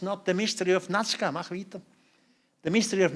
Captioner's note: non-english speech